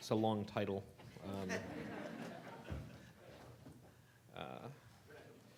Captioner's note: audience laughing